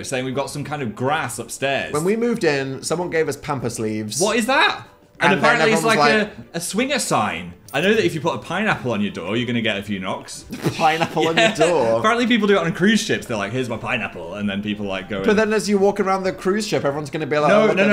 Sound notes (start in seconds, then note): 10.5 Phil laughs